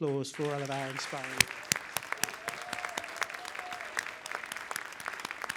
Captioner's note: applause